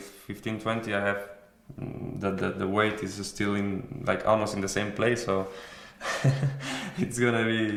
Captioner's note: laughs